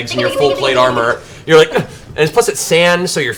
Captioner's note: grunt